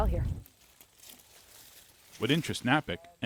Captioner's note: grape leaves rustling